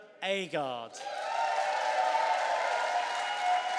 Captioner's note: cheering and applause